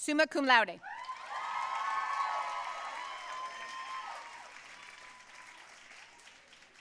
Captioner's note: audience cheering and applauding